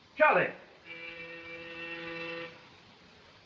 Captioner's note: doorbell rings